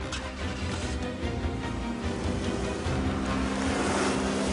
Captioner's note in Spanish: Ruido del motor